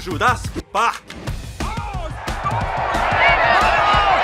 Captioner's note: all yelling in Spanish